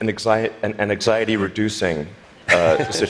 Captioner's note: laughter